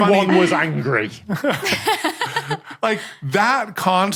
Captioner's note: laugh